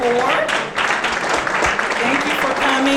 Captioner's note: audience clapping